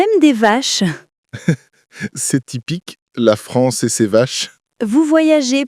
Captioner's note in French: rire